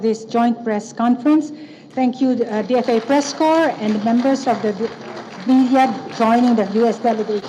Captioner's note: applause